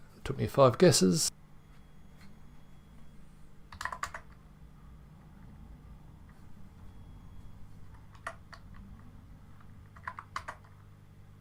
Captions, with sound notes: Took me five guesses. (keyboard typing)